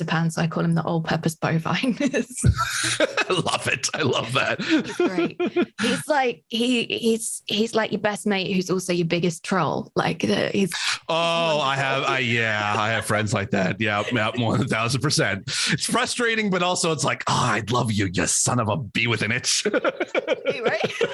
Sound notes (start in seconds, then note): 2.4 laughs; 19.1 both laughs